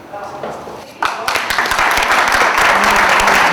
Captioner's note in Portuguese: Palmas